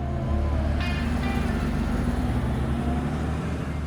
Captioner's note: traffic